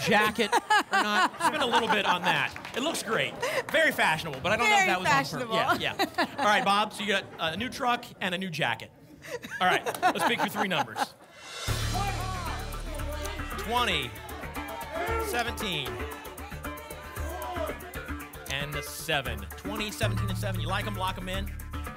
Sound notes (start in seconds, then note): 16.1 audience shouting numbers